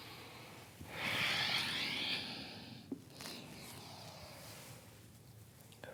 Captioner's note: inhales and exhales